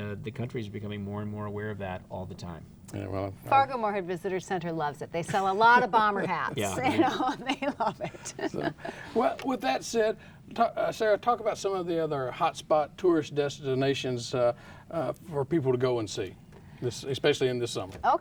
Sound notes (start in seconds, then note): 5.2 laughing